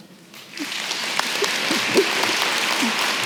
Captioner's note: applause